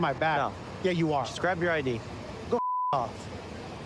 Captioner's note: beep